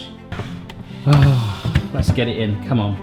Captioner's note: sighs